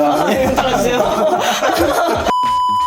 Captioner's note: laughing